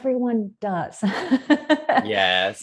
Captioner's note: laughs